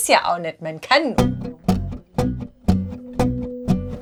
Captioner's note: pattering sounds